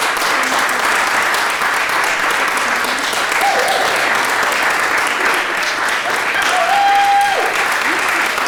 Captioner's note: applause; applause, cheering